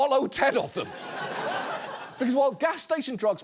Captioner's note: audience laughs